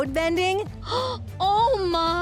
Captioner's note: gasping